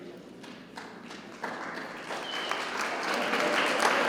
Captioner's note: crowd clapping